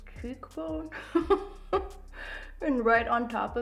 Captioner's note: laughs